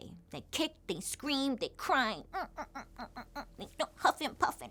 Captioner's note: imitates crying